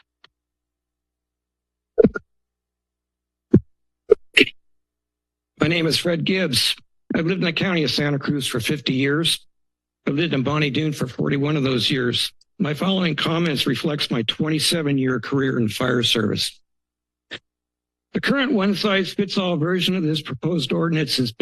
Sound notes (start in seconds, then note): 0.1 silence; 16.9 pause